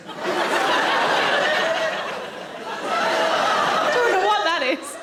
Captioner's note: audience laughing